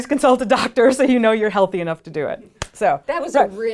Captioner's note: claps